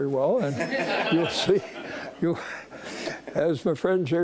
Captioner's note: audience laughing